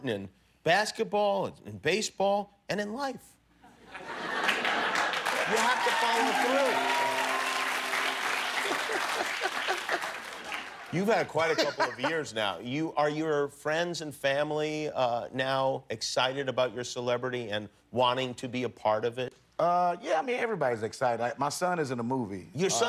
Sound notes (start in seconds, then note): 4.8 cheers and applause